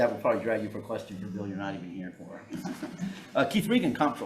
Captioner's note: chuckling